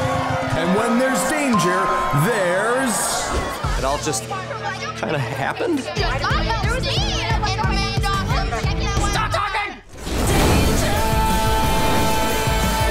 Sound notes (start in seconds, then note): 5.5 overlapping chatter